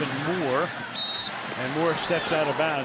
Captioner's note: whistle